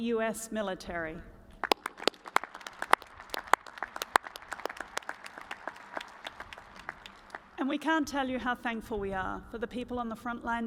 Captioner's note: applause